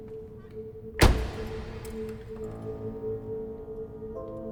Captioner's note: car door thuds; suspenseful music